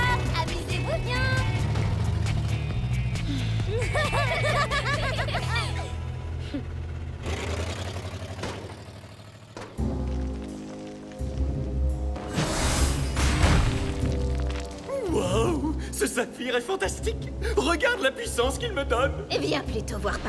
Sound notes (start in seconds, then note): 5.2 both laughing; 8.6 continues backfiring